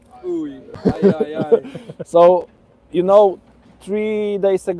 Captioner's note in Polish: śmiech